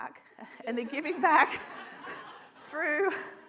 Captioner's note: audience laughs